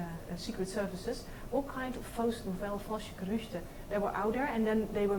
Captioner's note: speaks in foreign language